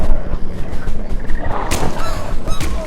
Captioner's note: gun shot; gun-shot